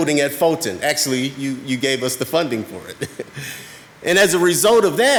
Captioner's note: laughs